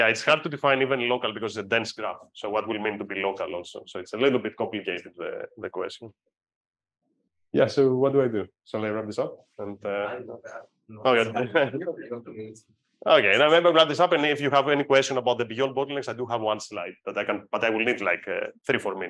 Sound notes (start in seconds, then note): 9.9 person 2 faintly speaks; 11.2 chuckles; 11.9 person 2 faintly speaks